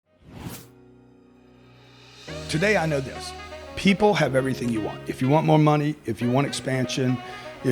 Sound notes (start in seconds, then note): 0.3 air swooshing; 1.4 jazz music